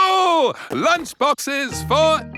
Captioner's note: laughs